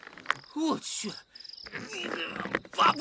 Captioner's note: straining